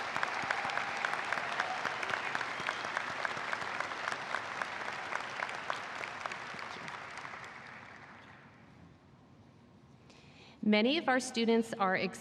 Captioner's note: applause